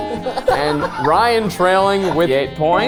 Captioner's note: group laughing